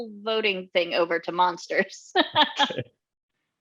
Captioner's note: laughs